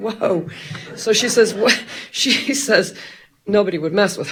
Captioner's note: chuckles